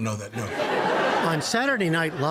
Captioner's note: laughter